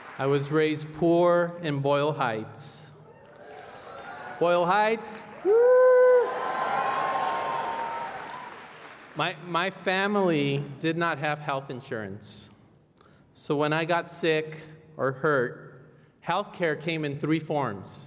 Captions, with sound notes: I was raised poor in Boyle Heights. Boyle Heights, yea. [ Applause ] My -- my family did not have health insurance. So when I got sick or hurt, healthcare came in three forms.